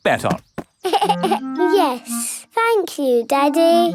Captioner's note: giggles